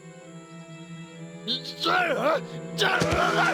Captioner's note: shouting